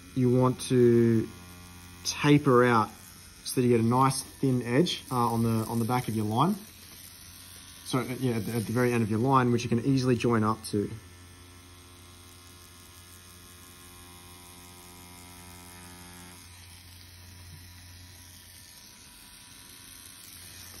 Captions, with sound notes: you want to taper out so that you got a nice, thin edge on the back of your line. So at the very end of your line, which you can easily join up to. (machine buzzing)